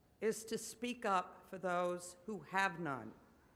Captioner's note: none